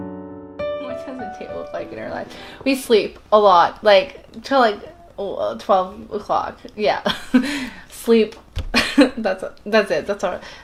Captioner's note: whispering